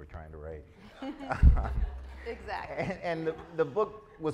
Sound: chuckles; laughs; audience laughs

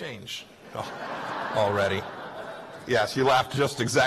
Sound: laughter

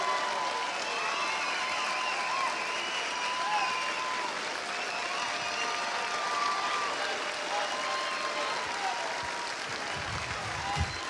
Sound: cheers and applause

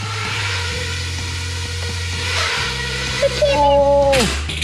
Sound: engine sound

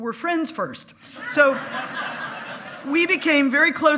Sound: hearty laughing

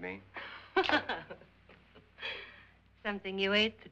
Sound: Annabelle laughs

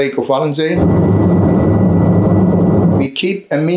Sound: plane engine rumbling

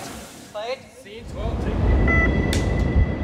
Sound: beeping

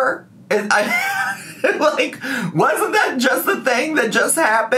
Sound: laughing

